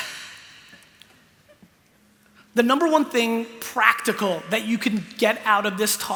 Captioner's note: sighs